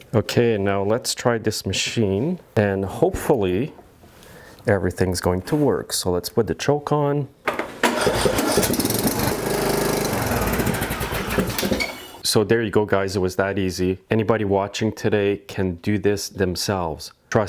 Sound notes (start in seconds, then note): 7.6 engine starting